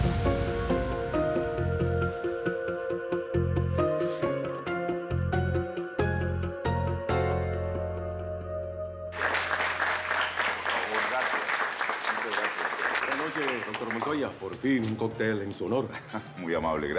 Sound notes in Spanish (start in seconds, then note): 11.2 Aplausos